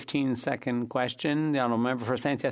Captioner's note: speaking French